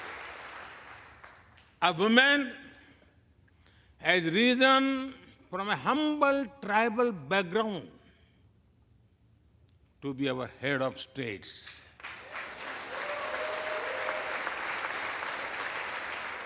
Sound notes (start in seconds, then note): 3.1 applause